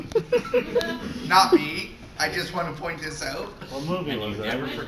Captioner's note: laughter